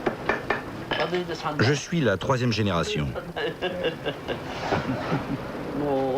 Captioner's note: laughs